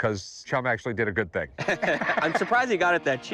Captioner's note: both laugh